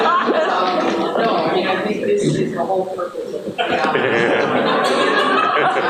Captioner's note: away from microphone; laughter